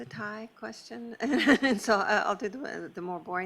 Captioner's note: laughs